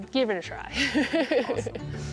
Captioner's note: laughter